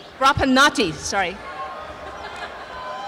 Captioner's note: cheering and applause